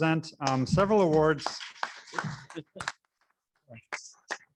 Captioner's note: applauding